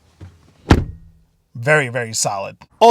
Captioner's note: door banging